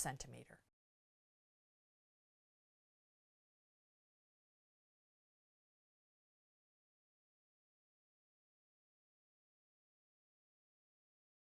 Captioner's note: no Sound Present